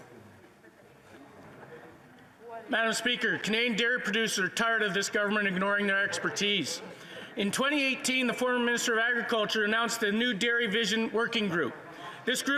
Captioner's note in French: voix de l'interprète